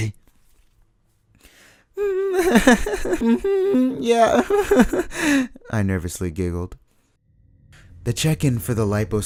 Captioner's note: gulps; nervous giggle